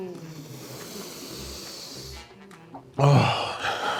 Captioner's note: sniffs loudly